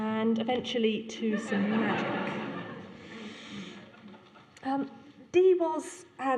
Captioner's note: laughter